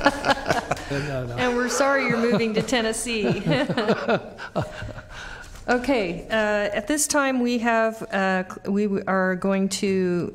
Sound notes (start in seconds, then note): 1.4 laughter